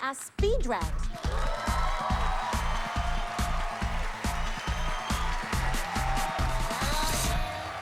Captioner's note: cheers and applause